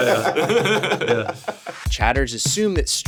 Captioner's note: streamers laughing